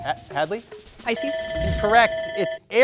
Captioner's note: timer ringing